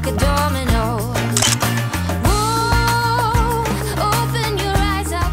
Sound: camera clicking

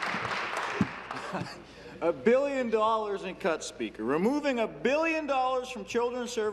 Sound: applause

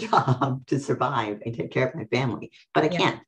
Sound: laughs

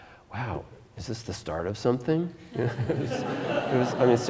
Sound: audience Laughter

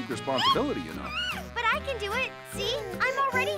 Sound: chuckling

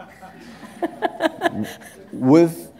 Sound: laughter

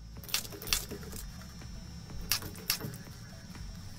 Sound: teeth grinding

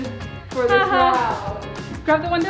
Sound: laughs

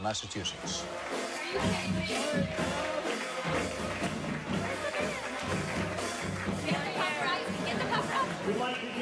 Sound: cheering

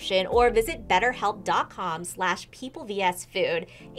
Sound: none

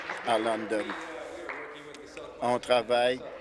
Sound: applause

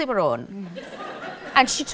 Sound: audience laughs

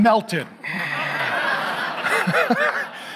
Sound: audience laughs; laughs

